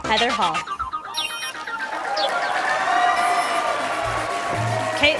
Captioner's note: sound of applause and cheering from the audience